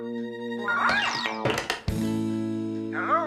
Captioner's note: clunk!